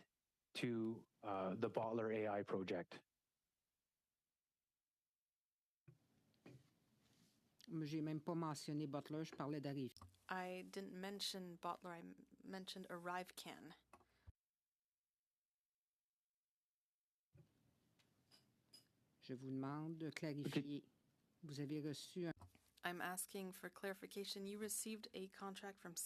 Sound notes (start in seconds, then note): 13.1 speaking French